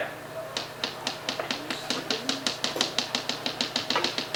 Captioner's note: tapping